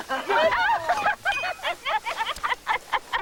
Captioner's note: giggling